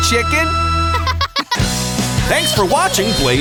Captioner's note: laughing